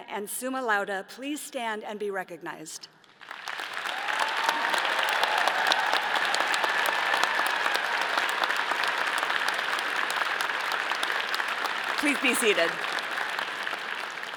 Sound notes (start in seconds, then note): 3.7 all cheering; 4.0 all applauding